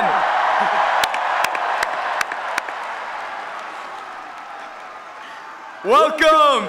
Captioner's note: applause and Cheering